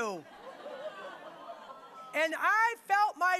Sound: audience laughing

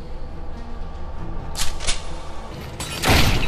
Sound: gun cocking noise

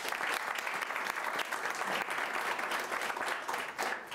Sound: applause

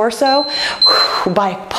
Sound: timer beeps

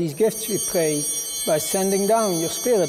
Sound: bell ringing

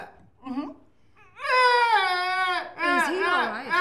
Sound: groaning

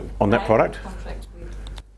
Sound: woman's Voice

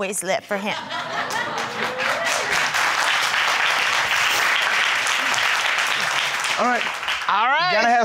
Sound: crowd cheering

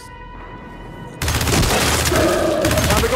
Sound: gunfire

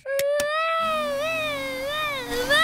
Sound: vacuum cleaner whirring

